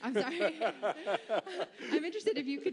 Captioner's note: laughter